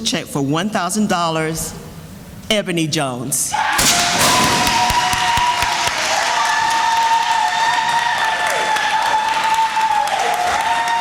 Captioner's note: sounds of cheering and applause